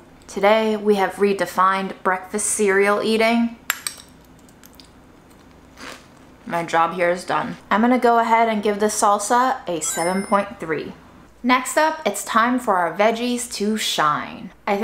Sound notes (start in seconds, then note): 5.2 food crunching